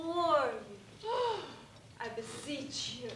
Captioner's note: sighs